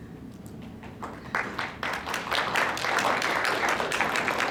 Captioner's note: applause